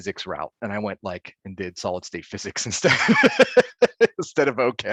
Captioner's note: laughing